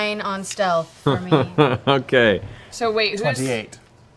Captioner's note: laughs